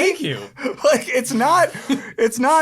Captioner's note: laughs